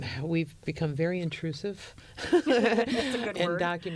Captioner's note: laughter